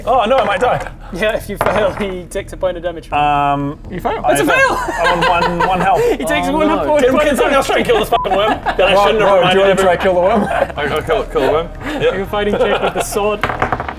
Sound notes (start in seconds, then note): 5.7 sadistic laughter